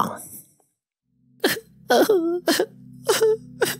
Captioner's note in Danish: Salad Fingers græder